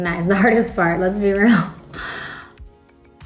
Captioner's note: chuckles